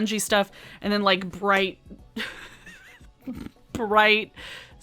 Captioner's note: laughs